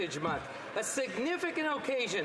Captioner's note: some Applause